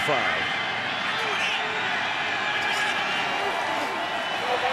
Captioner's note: crowd cheering